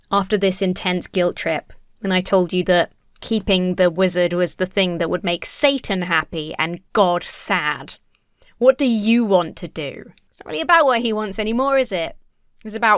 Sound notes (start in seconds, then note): none